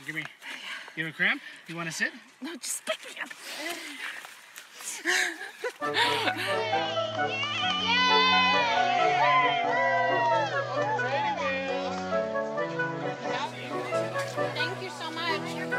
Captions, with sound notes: Give me... you have a cramp? -You wanna sit? -No, just pick me up. [Laughter] [Melodic piano rhythms playing] [Crowd cheering in excitement] Thank you so much.